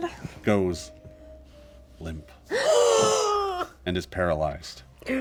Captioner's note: gasps